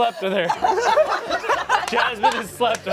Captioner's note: everyone laughs